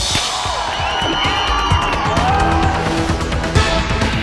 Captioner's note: thrilling music; audience cheering; thrilling music continues